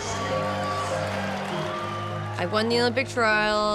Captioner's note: crowd cheering